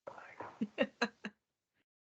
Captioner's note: laughing